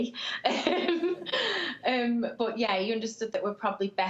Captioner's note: laughs